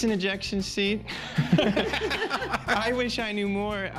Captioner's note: laughs